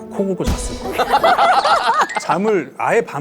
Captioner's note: laughing